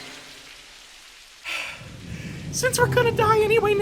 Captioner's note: gasping for air